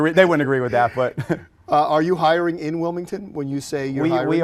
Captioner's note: chuckles